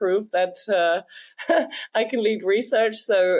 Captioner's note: laughs